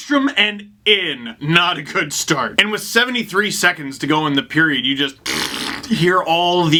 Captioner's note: deflating balloon noise